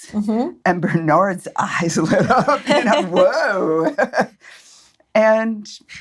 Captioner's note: laughs